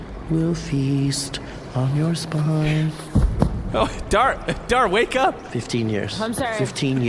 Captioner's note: rustling noises; laughing